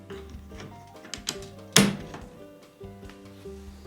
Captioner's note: snap